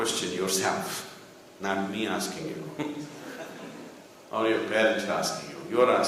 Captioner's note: laughs